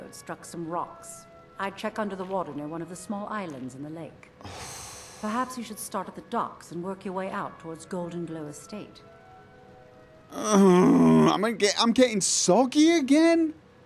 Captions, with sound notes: *exhale* *grunt* I'm getting soggy again.